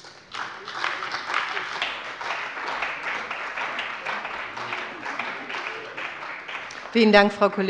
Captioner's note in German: Beifall bei der CDU und dem BÜNDNIS 90/DIE GRÜNEN